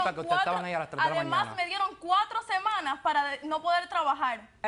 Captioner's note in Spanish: Hablan al unísono